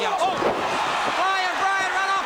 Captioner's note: crowd cheering